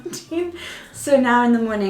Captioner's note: laughing